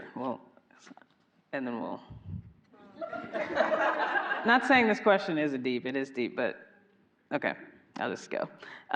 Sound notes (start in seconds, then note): 3.1 audience laughing